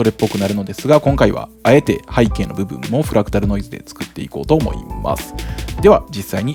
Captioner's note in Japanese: フラクタルノイズ